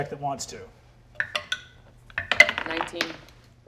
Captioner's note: dice clatter